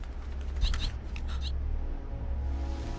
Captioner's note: bird chirping